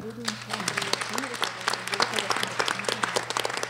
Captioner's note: applause